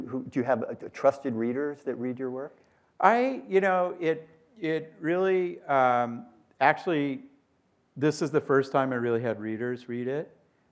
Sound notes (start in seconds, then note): none